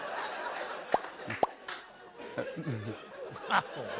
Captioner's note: laughter; pop! Pop!; laughter